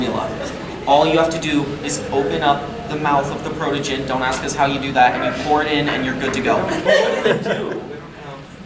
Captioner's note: audience laughing